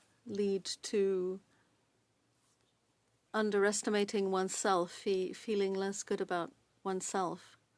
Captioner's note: speaking french